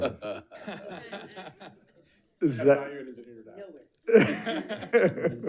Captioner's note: board Members laugh